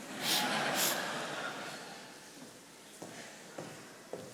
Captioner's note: attendees laughing